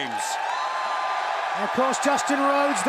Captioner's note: crowd cheering